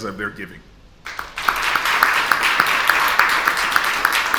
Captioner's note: audience applauds